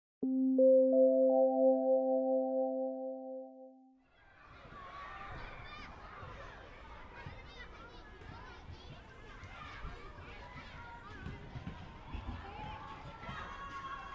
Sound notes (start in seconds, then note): 2.8 sound of children on playground